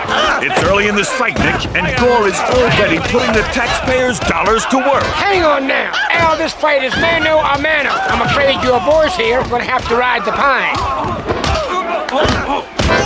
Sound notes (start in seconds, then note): 0.0 Various sounds of Yankovic getting his shit rocked; 3.6 Various sounds of Yankovic getting his shit rocked; 9.2 Various sounds of Yankovic getting his shit rocked; 12.0 Gore clapping